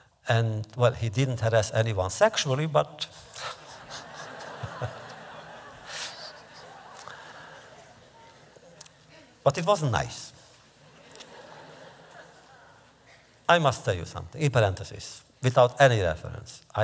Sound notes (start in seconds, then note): 3.3 laughter